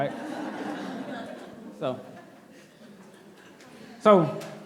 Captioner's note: laughing